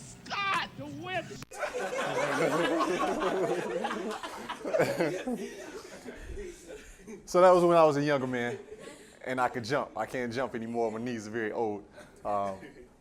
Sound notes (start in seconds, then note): 1.5 laughter